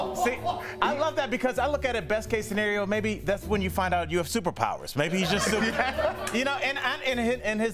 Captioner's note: laughter